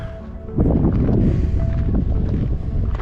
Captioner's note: wind blowing